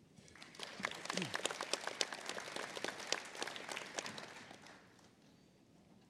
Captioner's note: applause